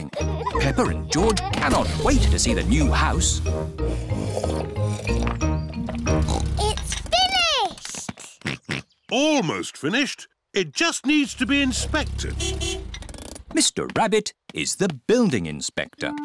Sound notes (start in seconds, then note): 3.8 slurping; 4.1 oinks; 7.7 george oinks; 11.4 horn beeps